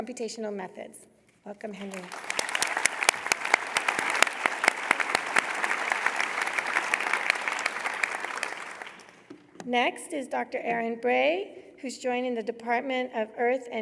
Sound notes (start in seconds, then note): 1.7 applause